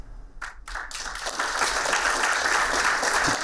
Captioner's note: applauding